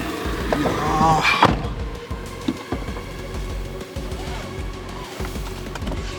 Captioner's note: tears